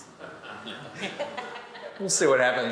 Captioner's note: all laughing